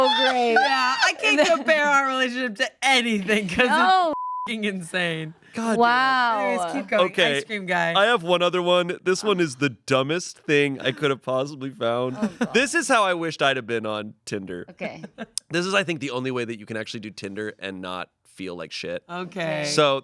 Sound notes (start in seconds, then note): 4.1 beep